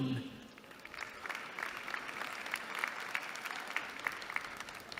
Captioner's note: applause